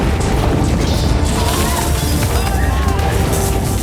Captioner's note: yells